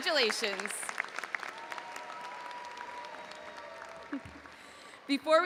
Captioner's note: audience cheering and applauding